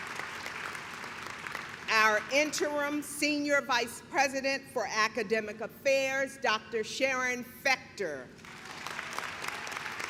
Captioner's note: clapping